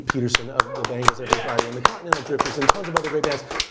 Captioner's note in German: applaus